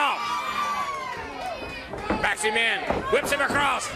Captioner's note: crowd chatter